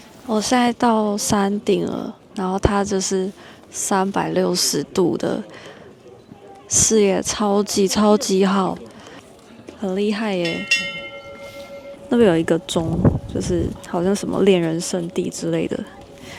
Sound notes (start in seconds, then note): 10.4 chime